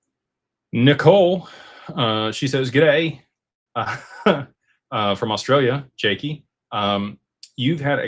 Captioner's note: laughter